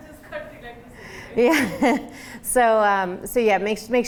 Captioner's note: laughing